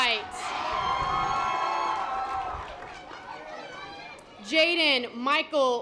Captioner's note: audience applause